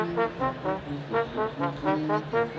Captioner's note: none